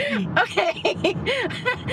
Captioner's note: laughing